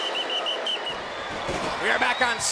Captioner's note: whistle blowing